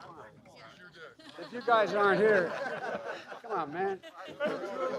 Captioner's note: laughter